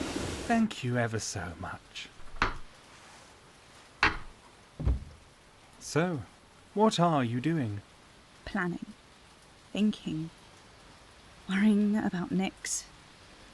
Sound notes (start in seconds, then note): 2.1 thud onto carpet